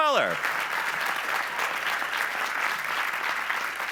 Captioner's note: applause